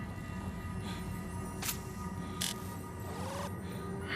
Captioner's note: clicks, powers up